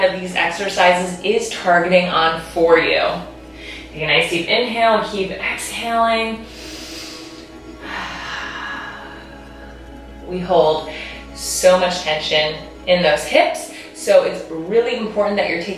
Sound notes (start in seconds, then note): 6.4 breathing deeply